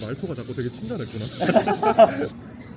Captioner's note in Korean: 웃음